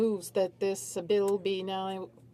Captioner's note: speaking French